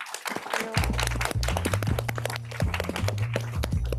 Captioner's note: applause